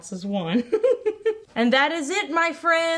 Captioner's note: laughs